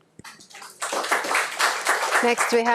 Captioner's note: audience applauds